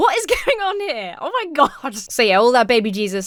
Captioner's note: Emma laughs